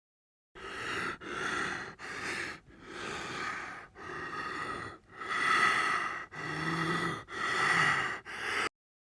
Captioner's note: deep loud breathing